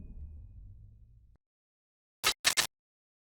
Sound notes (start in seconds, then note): 2.3 static crackles